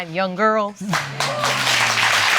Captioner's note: audience applauding